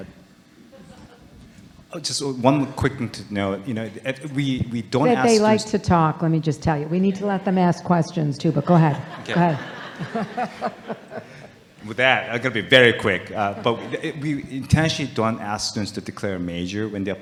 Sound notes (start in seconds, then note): 0.7 audience laughing; 10.3 audience laughing